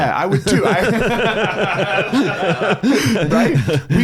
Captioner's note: laughs